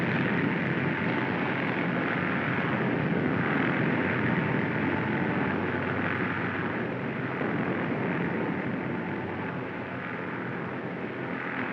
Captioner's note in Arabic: هدير الطائرة في الأعلى